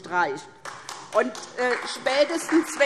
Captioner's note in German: Beifall SPD und DIE LINKE